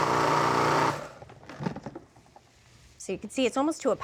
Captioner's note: processor whirring; processor stops